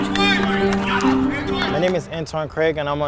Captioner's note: participants shouting